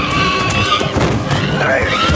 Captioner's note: squeeling